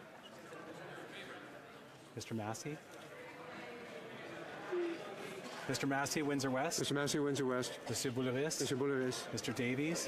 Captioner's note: crowd Noise